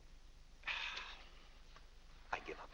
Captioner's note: exasperated sigh